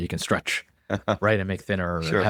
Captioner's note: laughs